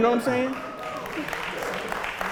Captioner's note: audience laughter